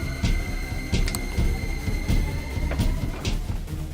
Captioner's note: clicking sound, administering antidote